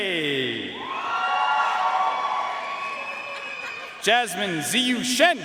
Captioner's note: audience cheering and applauding